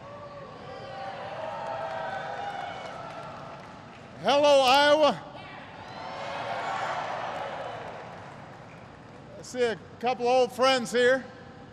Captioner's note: applause